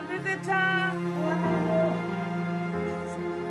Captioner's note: speaking Portuguese